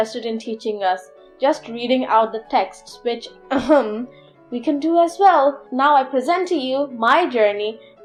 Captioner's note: clears throat